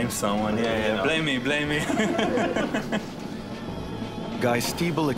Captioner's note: laughs